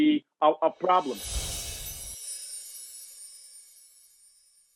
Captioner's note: shimmering sound